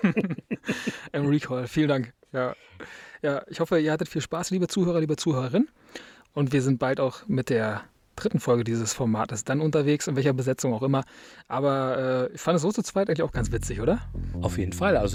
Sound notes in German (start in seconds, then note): 0.0 gelächter